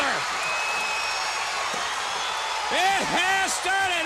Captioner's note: crowd cheering